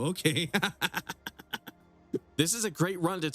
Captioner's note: laughs